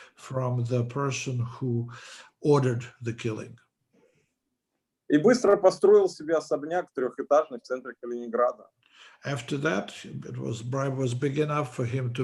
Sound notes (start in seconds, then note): 5.5 speaking Russian language